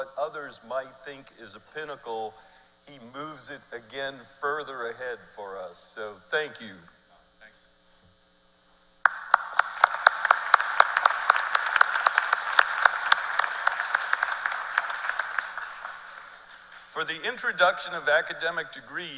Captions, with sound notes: Leigh has a never-ending quest, because as I've worked with him and he's reached what others might think is a Pinnacle, he moves it again further ahead for us. So thank you. [Applause.]